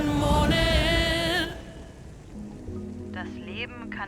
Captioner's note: podcast plays